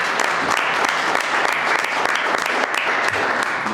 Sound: applause

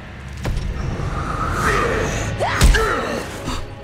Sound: grunting

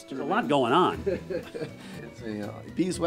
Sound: laughing

